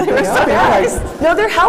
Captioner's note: laughter